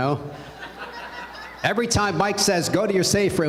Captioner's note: laughter